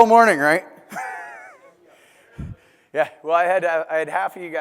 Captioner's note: laugh